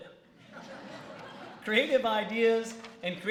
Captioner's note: laughter